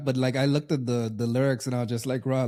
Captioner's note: none